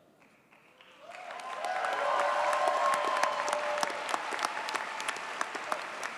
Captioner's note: audience cheers and applauds